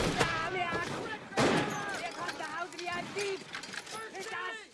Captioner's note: german soldiers shouting